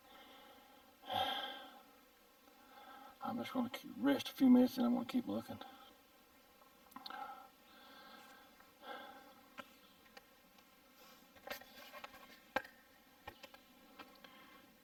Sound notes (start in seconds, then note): 1.0 sighing; 8.8 heavy breathing